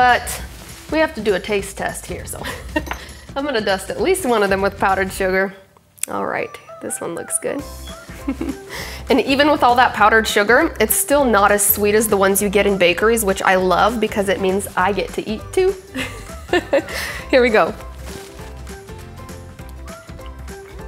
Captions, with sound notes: but we have to do a taste test here. I'm gonna dust at least one of them with powdered sugar. Alright, this one looks good (laughs). And even with all that powdered sugar, it's still not as sweet as the ones you get in bakeries which I love because it means I get to eat two. (laughs) Here we go.